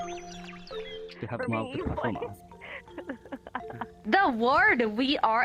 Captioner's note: chatter